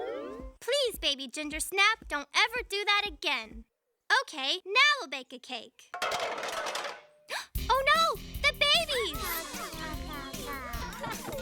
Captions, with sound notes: PLEASE, BABY GINGER SNAP, DON'T EVER DO THAT AGAIN. OKAY, NOW WE'LL BAKE A CAKE. [ Clattering ] [ Gasps ] OH, NO! - THE BABIES! - [ All Babbling ]